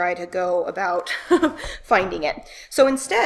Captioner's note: laughing